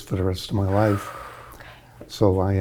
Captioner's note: exhale